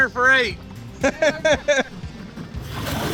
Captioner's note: laughing